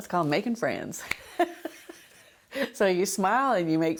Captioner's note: laughter